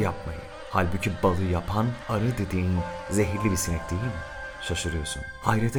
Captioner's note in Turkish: Arı vızıltıları